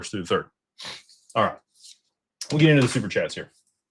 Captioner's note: snorts